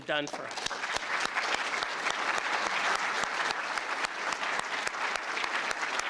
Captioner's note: applause